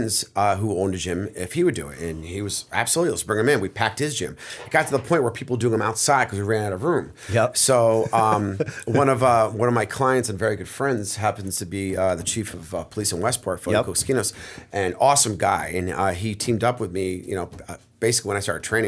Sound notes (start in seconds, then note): 7.9 laughter